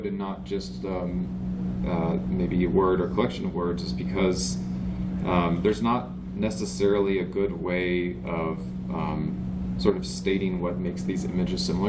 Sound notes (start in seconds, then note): none